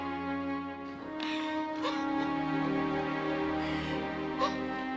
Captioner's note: Bree sobbing